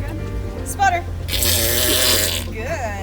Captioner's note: walrus vocalises